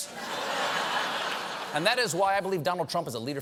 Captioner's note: laughter